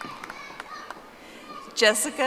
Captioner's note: audience applauding